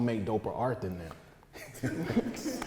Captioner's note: laughter, claps